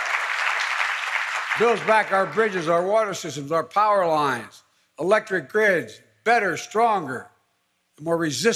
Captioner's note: applause